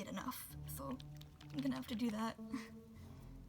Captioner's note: laughs